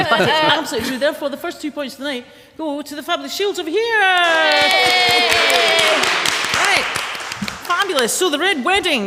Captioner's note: applause